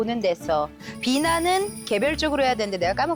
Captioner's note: successful businessperson sound effect